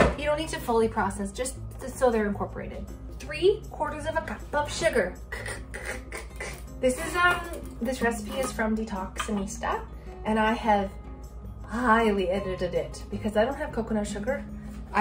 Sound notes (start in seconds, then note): 5.1 makes rhythmic sounds